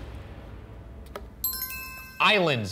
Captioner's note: bell dinging